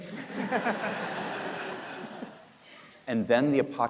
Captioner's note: audience laughing